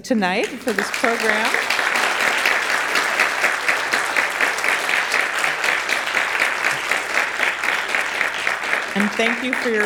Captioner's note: audience applauds